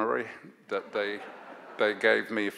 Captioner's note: audience laughs